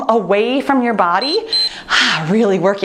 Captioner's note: timer beeps